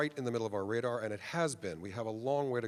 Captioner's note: none